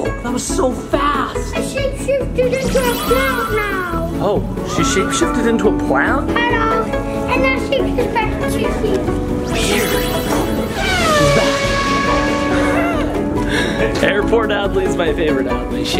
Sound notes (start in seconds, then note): 9.6 audio tinkles; 12.5 laughs